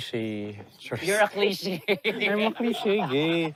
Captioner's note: chuckles